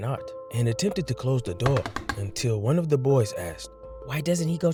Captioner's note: door creaks